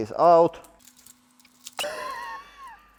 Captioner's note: laugh